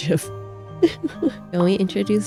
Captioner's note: laughs